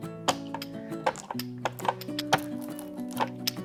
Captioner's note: brayer clacking